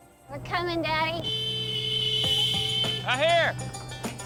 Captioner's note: honks horn